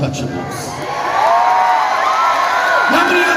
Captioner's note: cheering